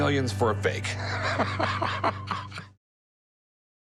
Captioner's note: laughing